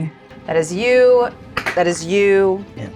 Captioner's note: die rattles